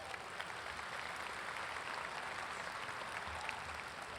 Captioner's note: audience applauds